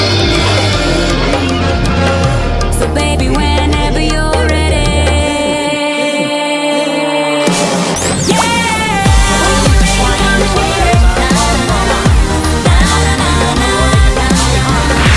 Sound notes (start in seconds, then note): 3.1 Bric & Brac Laugh